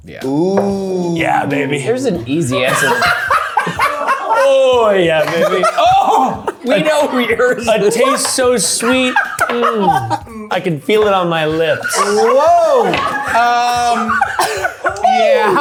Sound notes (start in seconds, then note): 3.5 laughing